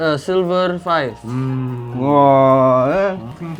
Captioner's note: somewhat ape noises